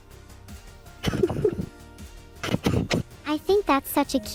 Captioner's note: hitching with sobs